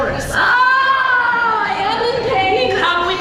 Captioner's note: exclaims